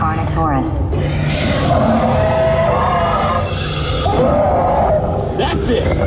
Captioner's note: carnotaurus roars